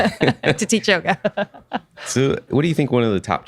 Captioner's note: laughing